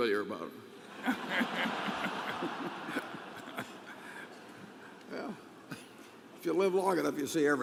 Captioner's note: laughter; laughter